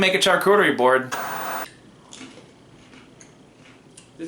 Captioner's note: static